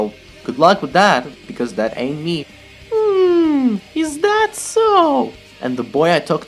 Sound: high-pitched voice

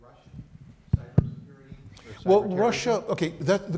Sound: faintly speaking

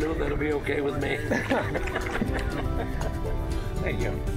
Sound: laughter

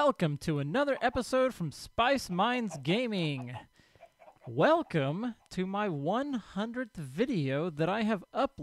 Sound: chickens clucking

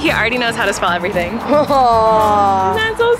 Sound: gushes

